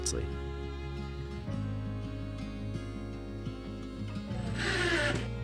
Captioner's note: drill buzzes